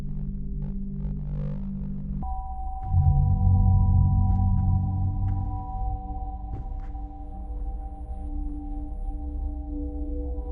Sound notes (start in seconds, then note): 2.5 shoes shuffling; 2.5 soft ominous music